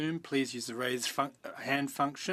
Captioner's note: speaking in French